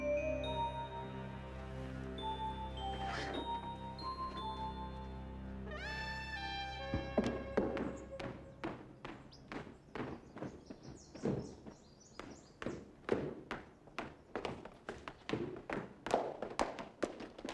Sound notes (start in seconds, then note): 0.0 mysterious music; 8.5 birds chirping